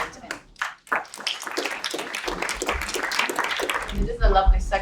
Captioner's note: applause